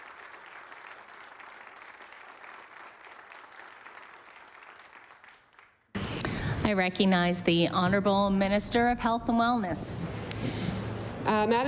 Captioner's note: applause